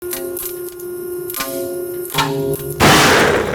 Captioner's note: machine whirring; sling pops